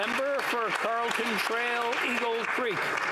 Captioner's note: applause